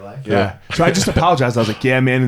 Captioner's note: laughs